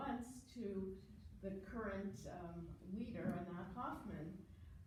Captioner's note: foreign language